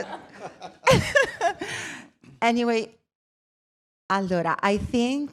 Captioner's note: laughing